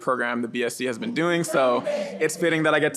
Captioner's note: audience responds